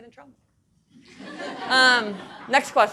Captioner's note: audience laughing